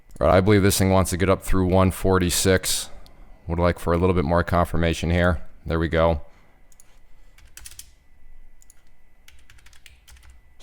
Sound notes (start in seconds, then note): 7.7 typing